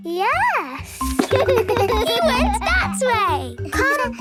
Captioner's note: giggles